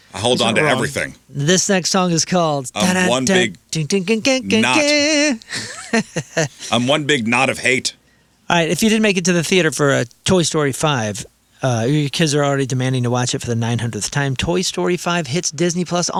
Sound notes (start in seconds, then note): 3.2 imitating radio music; 4.5 laughs